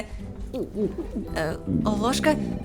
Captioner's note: sounds of digestive system noping out